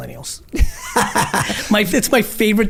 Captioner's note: laughs